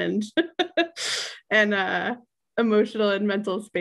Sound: laughs

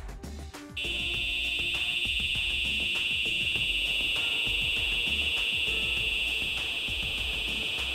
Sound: fire alarm

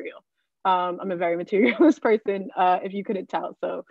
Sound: chuckling

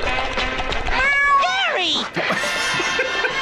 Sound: Gary meows; laughs

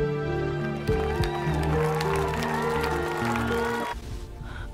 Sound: crowd clapping and cheering

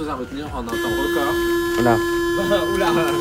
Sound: metro signal

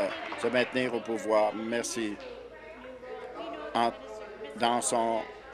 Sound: applause

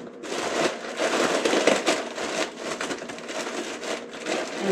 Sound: paper crumpling

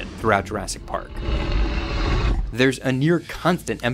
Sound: dinosaur roars

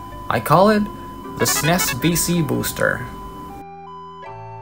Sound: EarthBound SFX

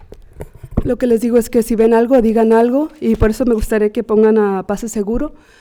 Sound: speaking Spanish

